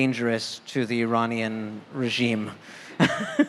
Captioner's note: laughter